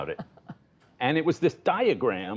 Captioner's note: laughter